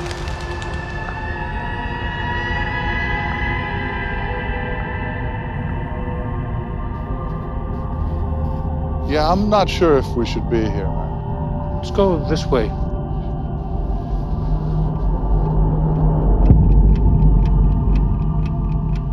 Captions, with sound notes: Yeah, I'm not sure if we should be here. Let's go this way. [TICKING CLOCK]